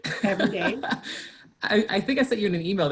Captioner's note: laughs